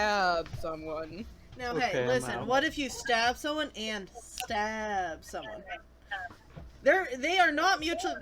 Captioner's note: finger snaps